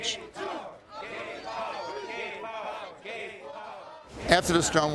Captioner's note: crowd